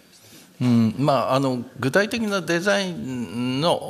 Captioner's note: speaking japanese